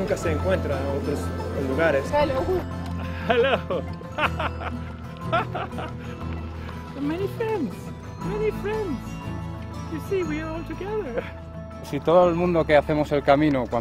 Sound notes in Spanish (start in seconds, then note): 3.0 laughter